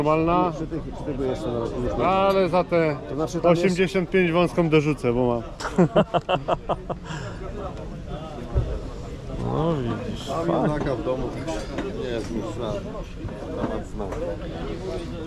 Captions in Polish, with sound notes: normalna ale za te 85 wąską dorzucę bo mam [śmiech] widzisz